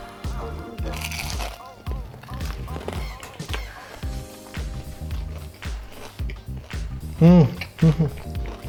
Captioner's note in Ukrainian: Хрум-Хрум